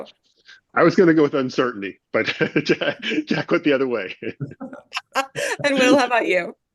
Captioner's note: laughs